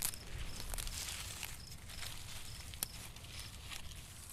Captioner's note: rustling